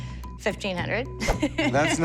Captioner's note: laughs